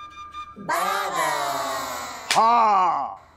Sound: sound effect playing

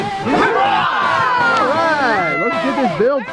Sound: group cheers

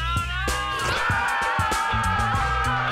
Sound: screaming

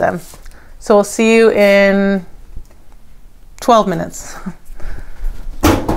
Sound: chuckles

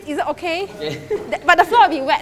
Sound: laughs

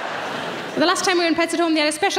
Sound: audience laughing

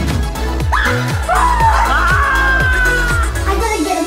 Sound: screams

